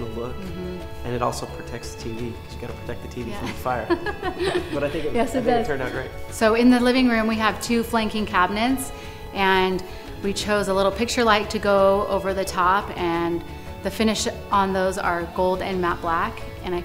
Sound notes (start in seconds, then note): 3.4 laughs